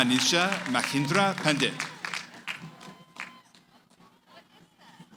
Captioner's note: applause